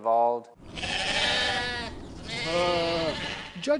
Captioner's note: sheep bleating